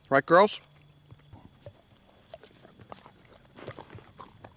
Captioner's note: munching